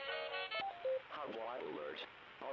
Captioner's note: beeping